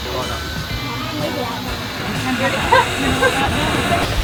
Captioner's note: steam hissing